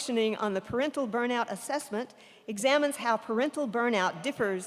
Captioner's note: none